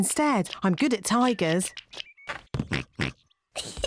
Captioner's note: oinks; giggles